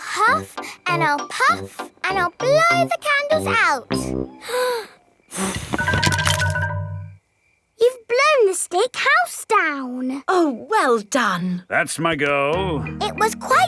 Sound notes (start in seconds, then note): 5.3 blowing